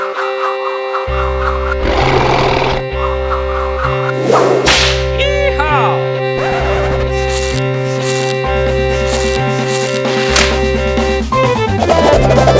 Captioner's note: dinosuar Roar